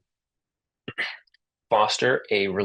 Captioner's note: interpreter clears throat